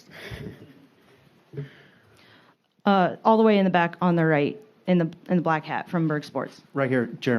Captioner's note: laughter